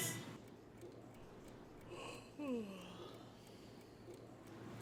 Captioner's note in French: silence gênant brisé par un lourd bâillement